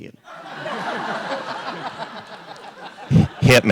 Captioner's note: audience laughing